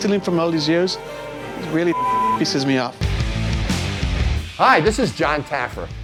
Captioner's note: beep